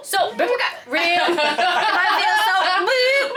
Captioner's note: group laughing